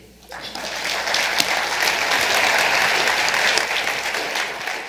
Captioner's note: audience claps